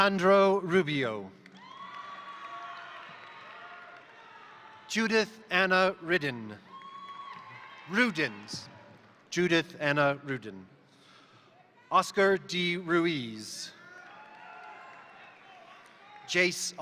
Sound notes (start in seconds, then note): 1.4 crowd applauding; 1.4 crowd cheering; 6.4 crowd applauding; 13.7 crowd cheering; 13.8 crowd applauding